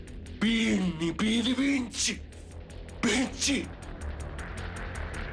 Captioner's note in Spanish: Habla en italiano